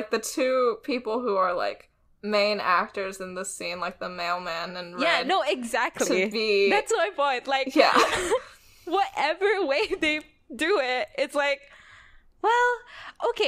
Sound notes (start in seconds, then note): 8.0 laughs